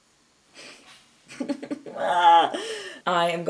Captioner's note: chuckles through nose; mock-cries; groans dramatically